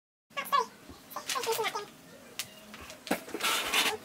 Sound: high-pitched voices speaking rapidly; loud clanking

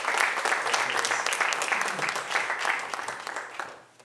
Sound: applause

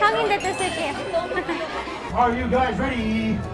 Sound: bell chiming

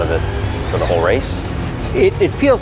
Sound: engine screeching

